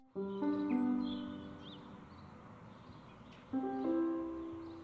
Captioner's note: birds chirping